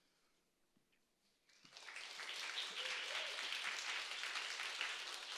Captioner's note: applause, cheering